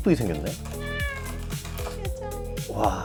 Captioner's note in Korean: 꺄아아